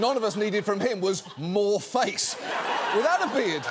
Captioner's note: studio audience laughing